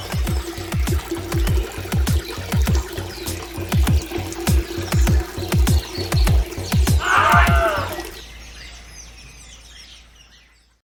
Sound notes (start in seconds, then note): 0.1 sounds of urination; 7.0 scream